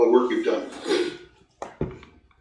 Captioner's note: chuckles